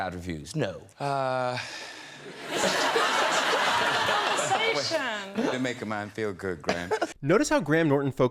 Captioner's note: sighs